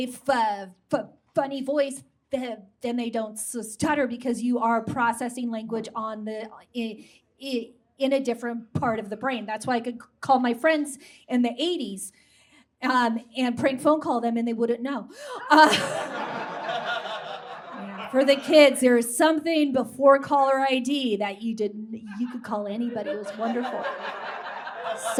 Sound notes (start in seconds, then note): 15.4 audience laughs